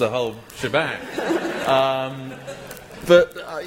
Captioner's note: laughter